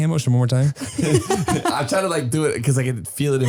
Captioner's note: laughing